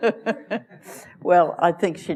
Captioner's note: laughter